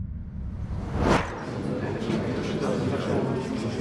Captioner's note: chatter